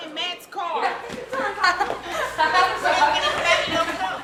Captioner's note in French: bavardage inaudible, rires